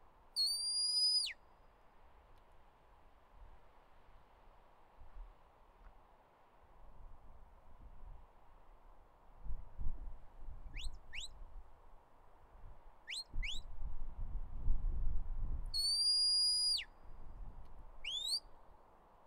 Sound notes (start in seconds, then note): 0.4 "Stop" whistle command; 15.8 "Stop" whistle command